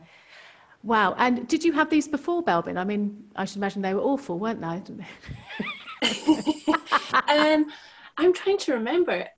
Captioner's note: laughtrer